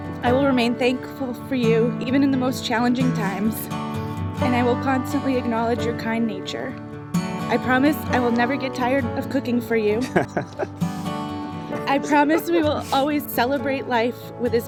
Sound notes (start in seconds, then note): 10.0 laughs